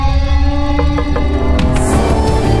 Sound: knocks

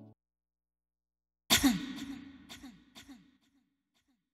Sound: cough

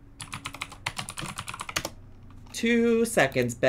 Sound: keyboard clicks

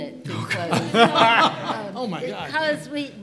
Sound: laughing drowns out speaker

